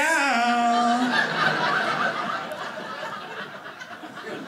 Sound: audience laughing

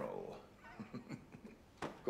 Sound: chuckles softly

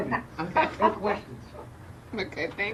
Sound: laughing

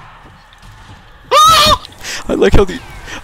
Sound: continued girly screaming

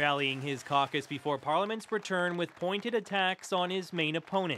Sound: cheers and Applause

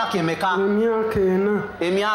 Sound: speaking in local language

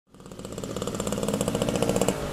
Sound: sound effects: motor bike

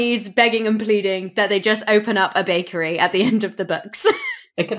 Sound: laughs

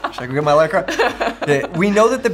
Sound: laughs

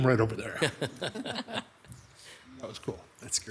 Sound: all laughing

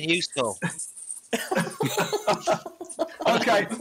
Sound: laughing

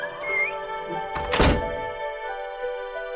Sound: door closing

